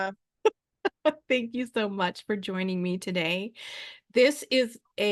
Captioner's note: laughs